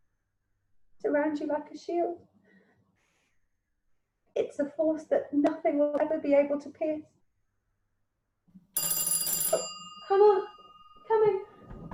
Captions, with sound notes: is around you like a shield. It's a force that nothing will ever be able to pierce. [doorbell] Hold on. Coming